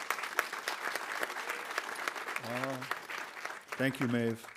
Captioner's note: audience applauding